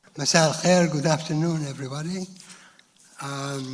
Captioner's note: speaks in foreign language